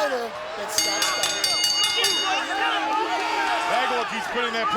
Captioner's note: crowd shouting; bell ringing